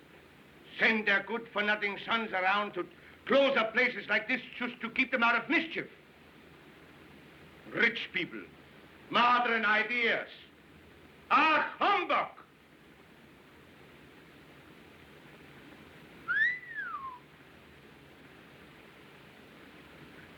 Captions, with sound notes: SEND THEIR GOOD-FOR-NOTHING SONS AROUND TO CLOSE UP PLACES LIKE THIS... JUST TO KEEP THEM OUT OF MISCHIEF. RICH PEOPLE. MODERN IDEAS. AH, HUMBUG! [ Whistles ]